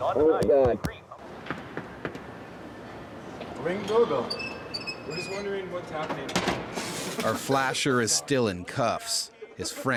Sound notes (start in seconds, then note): 1.8 knocking on door; 6.9 all laughing